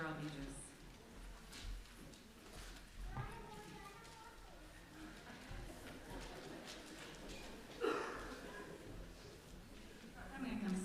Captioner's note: sounds of children and congregation murmuring